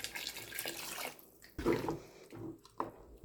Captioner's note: none